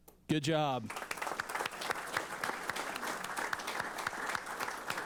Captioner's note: applause